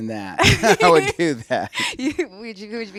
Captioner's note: laughs